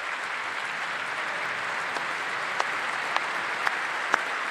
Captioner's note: applause